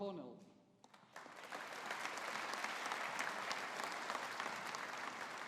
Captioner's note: audience applauding